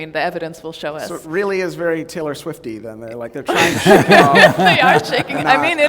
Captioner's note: laughter